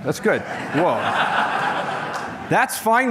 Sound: laughter

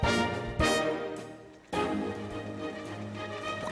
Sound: jam bubbles

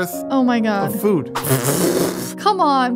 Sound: sputters

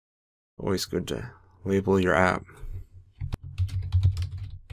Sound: typing

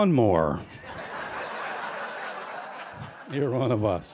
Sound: laughter

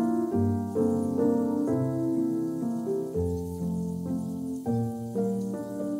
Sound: the subtle sound of the waves in the background enhanced my focus

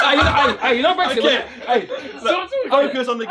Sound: all chattering; all laughing

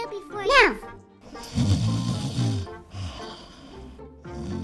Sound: snoring

